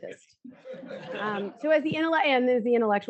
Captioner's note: audience laughs